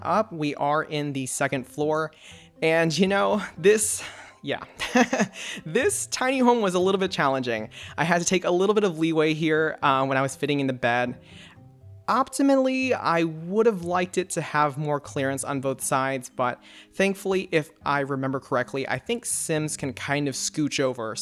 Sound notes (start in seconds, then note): 4.7 laughs